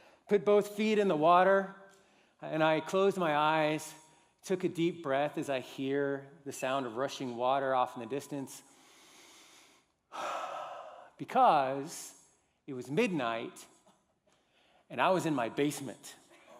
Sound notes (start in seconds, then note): 10.0 breathes deeply